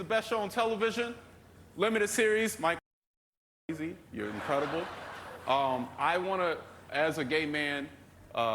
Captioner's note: laughter